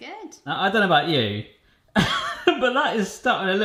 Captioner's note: chuckling